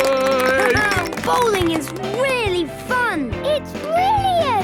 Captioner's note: clapping, laughing